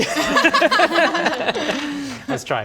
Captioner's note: heartless laughter